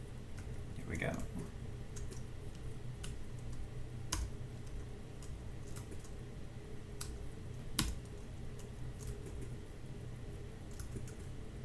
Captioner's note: typing